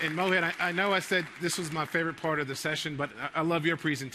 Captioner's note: applause